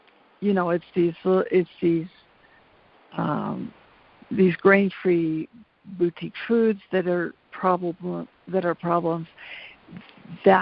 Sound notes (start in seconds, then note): none